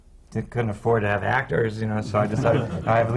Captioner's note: laughter